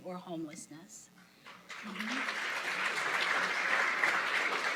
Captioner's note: applause